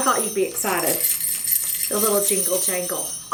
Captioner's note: bells jingling